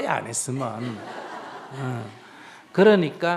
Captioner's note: audience laughter